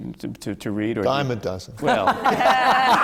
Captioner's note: laughter